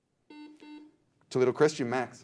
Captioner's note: beep